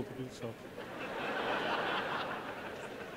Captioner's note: audience laughs